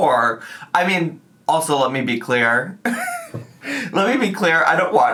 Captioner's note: laughs